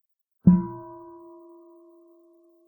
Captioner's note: half bell